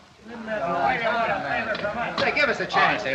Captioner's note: confused protests